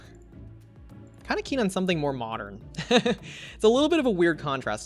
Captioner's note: laughs